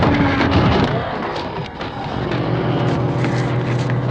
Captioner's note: ghouls growling